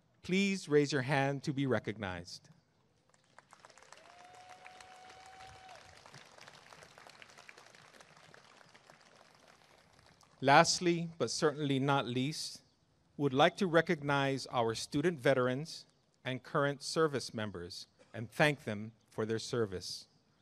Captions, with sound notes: please raise your hand to be recognized [applause and cheering] Lastly but certainly not least we would like to recognize our student veterans and current service members and thank them for their service